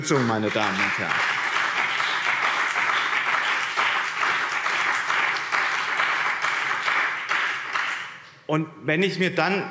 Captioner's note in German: Beifall BÜNDNIS 90/DIE GRÜNEN und CDU